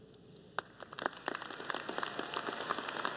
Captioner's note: applause